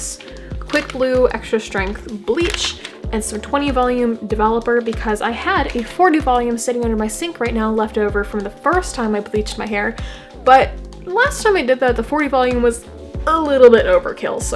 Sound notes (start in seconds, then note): none